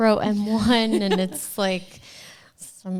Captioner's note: laughs